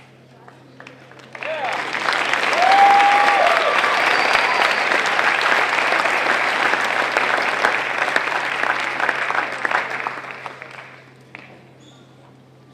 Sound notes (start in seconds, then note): 0.5 applause